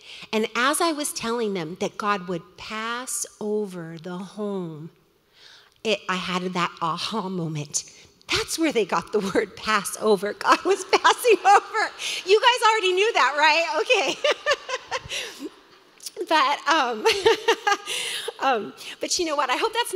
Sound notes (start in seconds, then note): 11.7 laughs; 14.0 laughs loudly